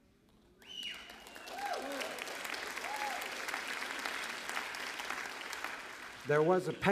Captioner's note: applause